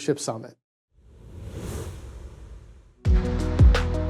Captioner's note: air whooshing; uplifting music